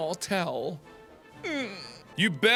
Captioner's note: baby noise